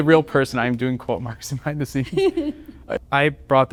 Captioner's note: laughter